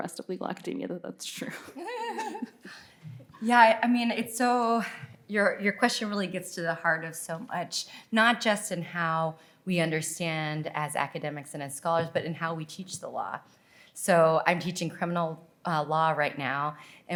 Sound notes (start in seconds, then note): 1.5 laughing